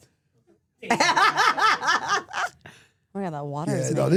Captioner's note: Steph laughing